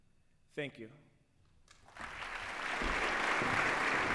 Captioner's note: applause